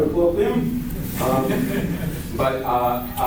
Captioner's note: laughter